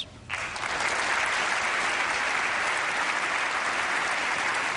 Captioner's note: applause